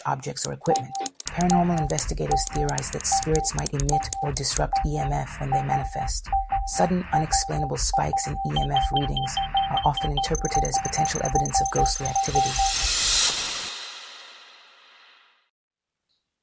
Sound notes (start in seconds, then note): none